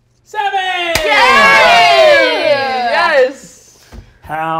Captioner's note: players cheer